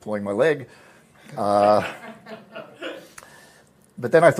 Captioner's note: laughter